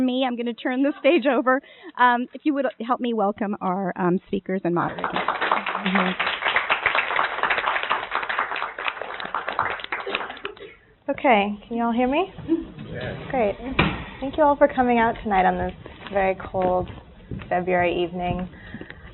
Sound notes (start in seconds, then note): 4.9 applauding